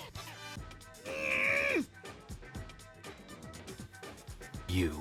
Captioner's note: makes funny sound, almost losing his character